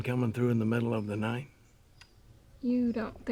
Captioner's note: none